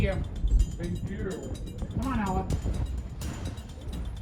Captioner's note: altered/distorted